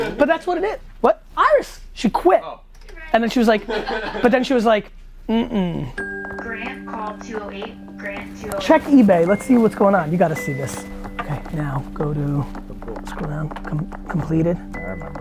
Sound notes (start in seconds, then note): 6.7 woman Over Speaker